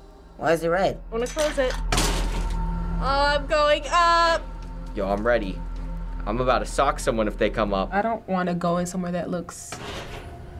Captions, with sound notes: Why is it red? - I'm going to close it. (booming noise) Oh, I'm going up! - Yo, I'm ready. I'm about to sock someone if they come up. - I don't want to go in somewhere that looks...